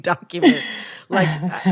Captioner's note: laughter